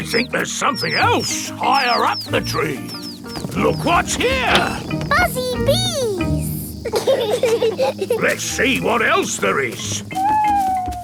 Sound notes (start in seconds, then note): 7.4 bees buzzing; 10.8 owl hooting